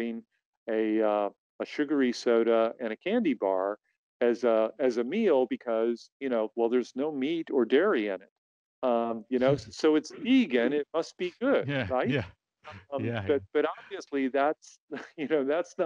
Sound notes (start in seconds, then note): 11.6 laughs